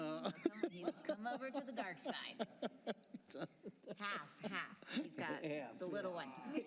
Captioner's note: laughter